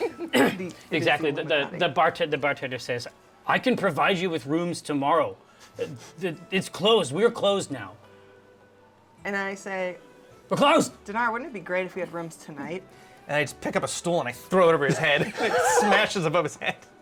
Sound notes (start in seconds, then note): 9.9 shouting